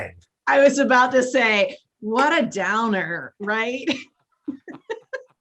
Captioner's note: laughs